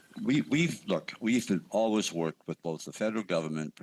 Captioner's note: speaking French